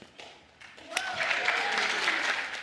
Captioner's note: applause